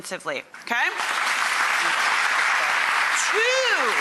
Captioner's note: applause